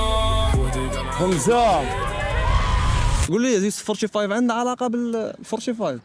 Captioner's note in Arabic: صراخ